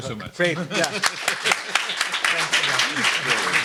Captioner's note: applause